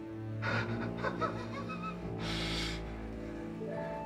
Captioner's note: laughs